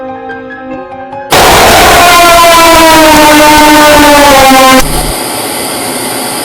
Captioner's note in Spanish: Jumpscare